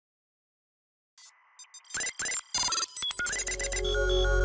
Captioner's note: logo beeping